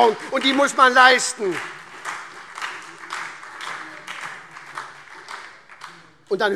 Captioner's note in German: Beifall SPD